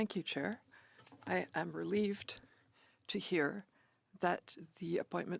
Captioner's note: speaking French